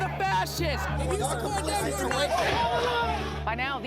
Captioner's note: shouting